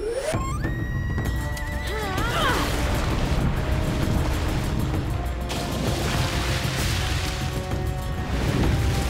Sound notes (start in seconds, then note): 1.8 groaning